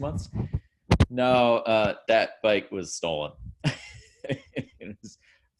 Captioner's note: laughing